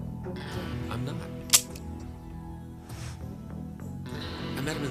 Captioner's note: loud clicking